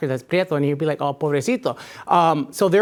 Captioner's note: speaking in a foreign language